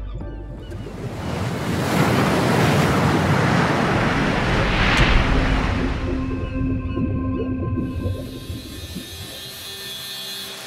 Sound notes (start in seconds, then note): 1.4 water splashing